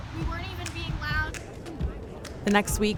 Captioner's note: crowd muttering